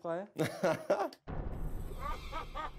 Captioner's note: laughter